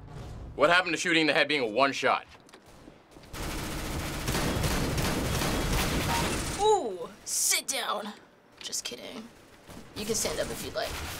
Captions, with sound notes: - What happened to shooting in the head being one shot? (gunfire) - Ooh! Sit down! Just kidding. You can stand up if you'd like.